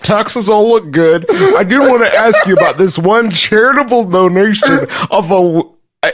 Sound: continues laughing

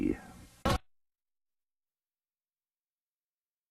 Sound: silence

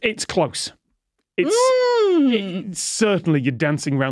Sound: grunts

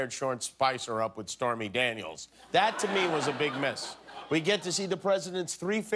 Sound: laughter

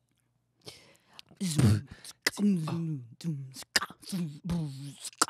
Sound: beatboxing

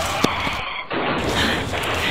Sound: crash

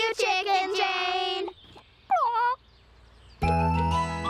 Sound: squawks

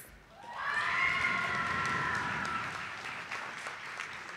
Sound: audience applauding

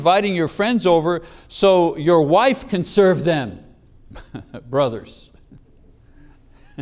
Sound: chuckles

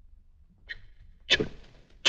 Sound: stutter

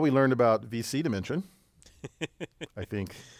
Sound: laugh

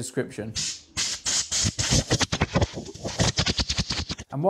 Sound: spraying sound

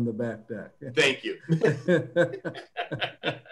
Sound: laughter

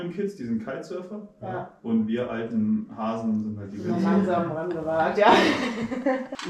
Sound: laughing

